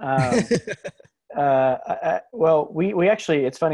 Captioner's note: laughs